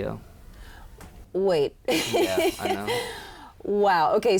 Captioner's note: laughs